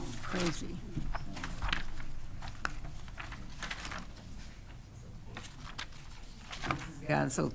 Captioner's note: pages rustling